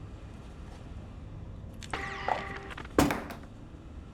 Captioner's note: devices rattle; mechanical whirring; object drops